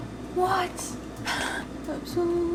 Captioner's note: laughs